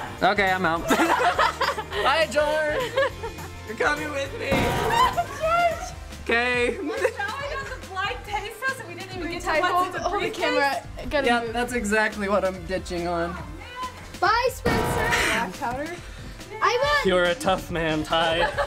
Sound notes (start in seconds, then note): 0.8 laughs